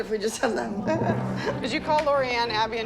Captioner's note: chuckles